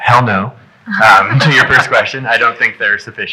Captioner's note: audience laughing